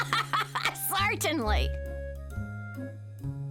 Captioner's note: laughs